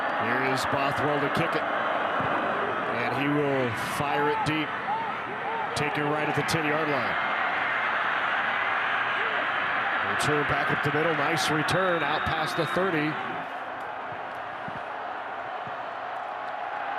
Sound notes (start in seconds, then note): 7.4 fans cheer; 11.7 referee blows whistle